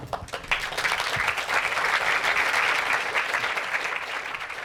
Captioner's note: applause